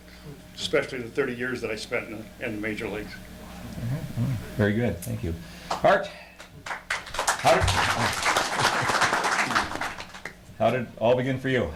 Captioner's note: audience Applauds